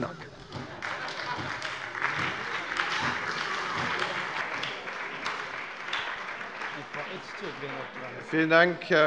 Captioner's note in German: Beifall bei der SPD und dem BÜNDNIS 90/DIE GRÜNEN